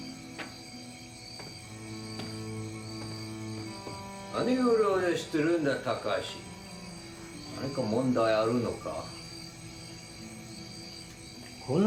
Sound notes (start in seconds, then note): 4.3 men speaking in Japanese